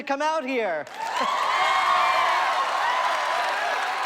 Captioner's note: crowd clapping and cheering